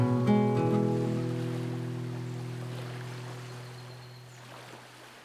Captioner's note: waves breaking